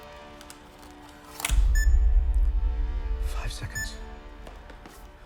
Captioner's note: camera beeping